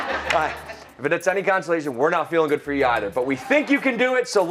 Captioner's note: laughter